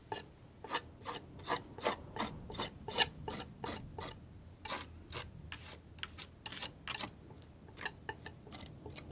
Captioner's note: scratching